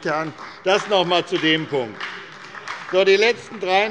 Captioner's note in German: Beifall bei der SPD